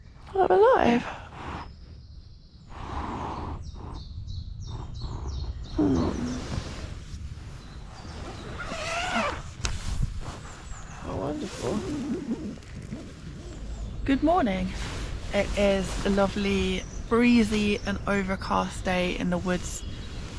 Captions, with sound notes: I'm alive! hmm *zipper* how wonderful good morning it is a lovely, breezy and overcast day in the woods